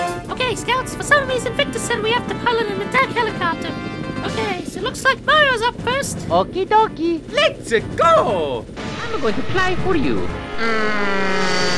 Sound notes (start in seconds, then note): 10.0 hyper realistic Plane noices